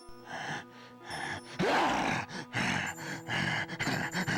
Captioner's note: inmate breathes heavily